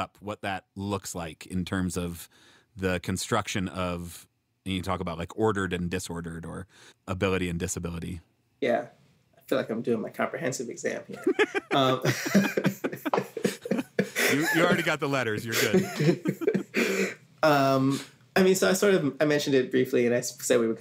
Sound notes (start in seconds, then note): 11.1 chuckles; 11.1 laughing